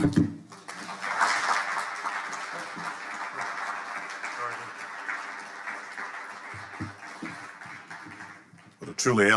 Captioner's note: audience applauding